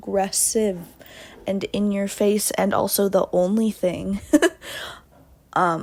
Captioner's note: laughs